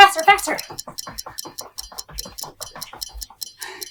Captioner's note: feet clacking